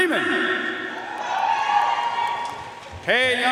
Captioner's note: audience cheering and applauding